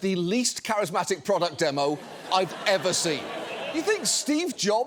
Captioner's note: audience laughs